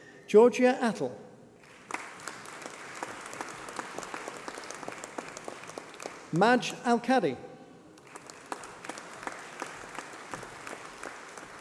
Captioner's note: applause